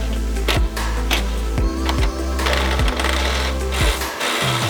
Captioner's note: impact whirring